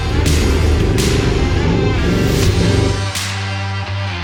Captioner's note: engine revs